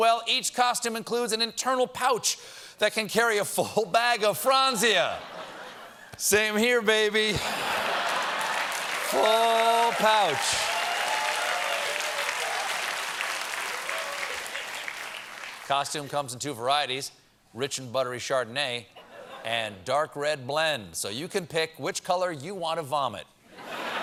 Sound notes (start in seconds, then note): 4.8 laughter; 5.0 applause